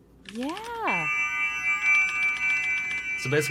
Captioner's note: high ringing tone